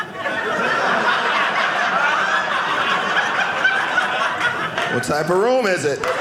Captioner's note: audience laughing